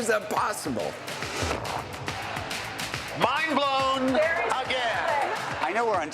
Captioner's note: laughter